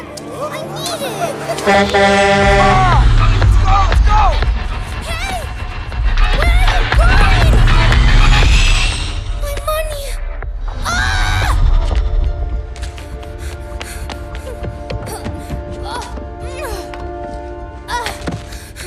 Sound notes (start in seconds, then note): 1.4 truck Horn; 10.7 yells in frustration